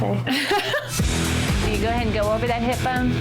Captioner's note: laughing